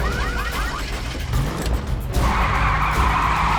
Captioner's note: ignition sputtering; engine starts; tires screeching